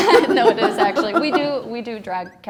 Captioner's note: laughs